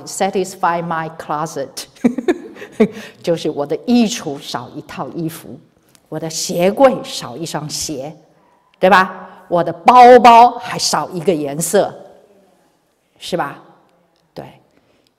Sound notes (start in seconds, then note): 2.2 laughs